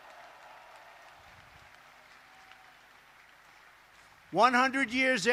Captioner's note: applause